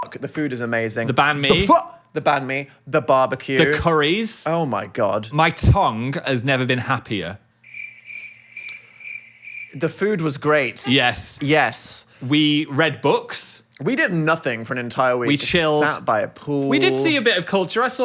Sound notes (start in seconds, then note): 0.0 beep; 7.6 crickets chirping